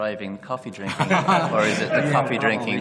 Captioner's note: laughter